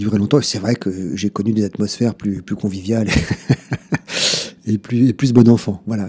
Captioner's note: laughs